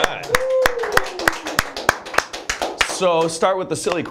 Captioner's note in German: applaus